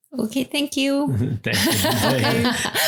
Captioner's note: laughs